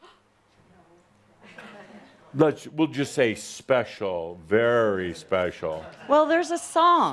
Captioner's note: gasps again